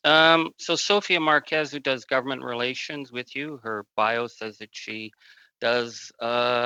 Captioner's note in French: voix de l'interprète